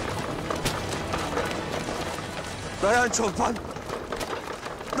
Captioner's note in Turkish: Kağnı Sesleri